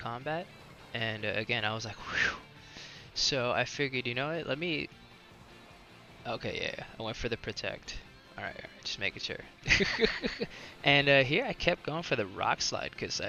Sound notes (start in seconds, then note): 2.0 whew!; 9.6 laughs